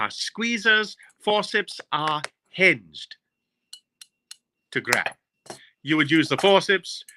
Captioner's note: forceps clicking